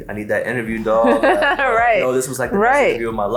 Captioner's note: laughs